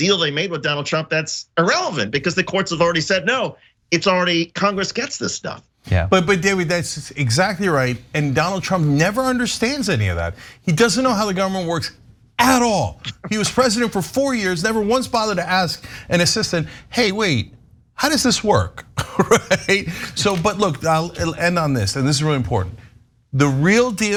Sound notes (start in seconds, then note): 18.8 laugh